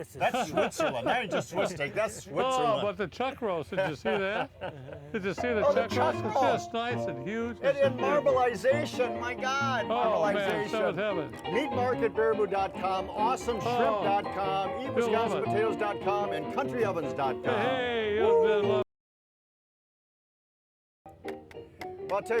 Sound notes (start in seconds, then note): 0.3 laughing; 3.6 laughing; 5.4 cheerful piano music; 19.0 ragtime piano music